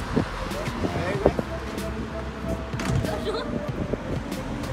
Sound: laughs

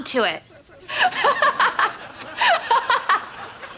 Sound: laughing

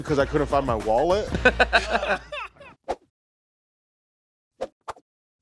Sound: everyone laughs

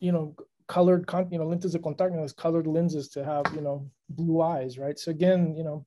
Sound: spanish

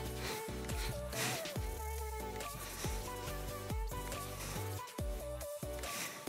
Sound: breathes; soft upbeat music

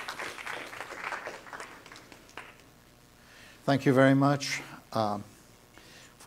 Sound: applause

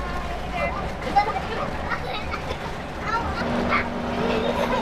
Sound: laughing

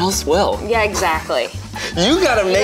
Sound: chuckles

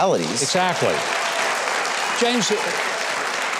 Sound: audience applauding

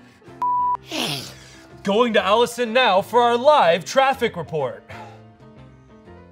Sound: sniffs

